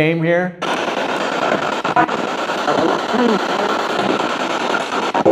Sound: static signaling

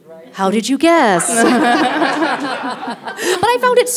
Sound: audience laughing

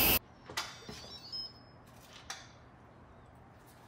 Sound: pot beeping

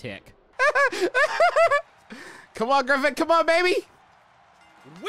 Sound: laughing

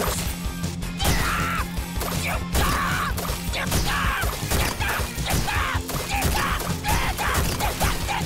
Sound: screaming

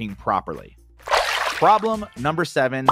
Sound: water splashing

